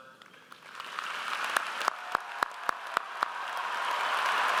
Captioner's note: audience applauds